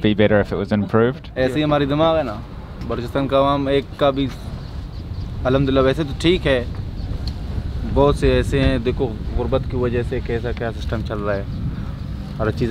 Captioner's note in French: Langue locale